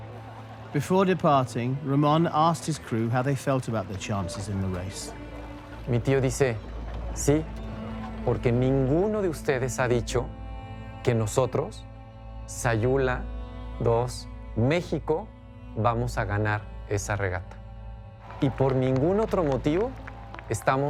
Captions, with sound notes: Ramón asked his crew how they felt about their chances in the race. [in Spanish] My uncle said, "None of you have said that we, the Sayula II from Mexico, will win this regatta." "That's the only reason we've gathered here."